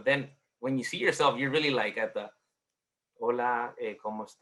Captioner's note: speaks Spanish